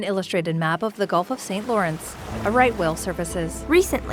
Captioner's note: water splashing